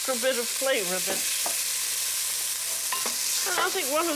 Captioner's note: sizzling